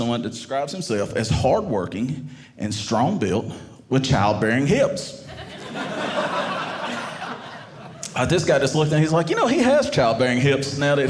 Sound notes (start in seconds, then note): 5.3 audience laughing